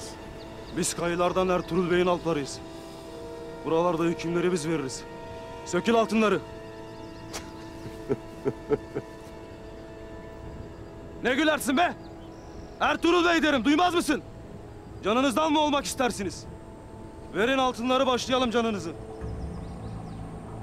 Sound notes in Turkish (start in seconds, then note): 7.3 Gülme sesi; 19.2 Müzik - Gerilim